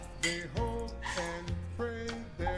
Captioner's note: glasses clanking